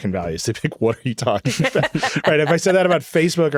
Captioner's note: laughing